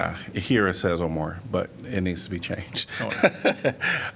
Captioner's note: laughter